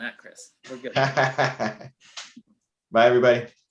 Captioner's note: laughs